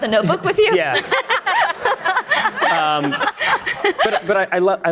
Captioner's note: audience laughing